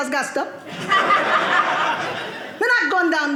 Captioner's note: audience laughing